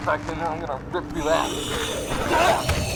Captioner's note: angry scream